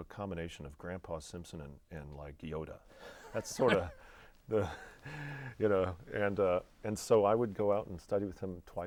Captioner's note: laughing